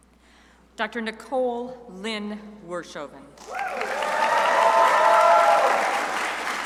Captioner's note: crowd applauding